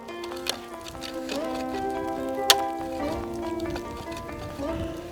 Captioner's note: ice axe hitting and scraping snow